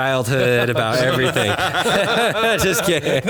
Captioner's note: men laughing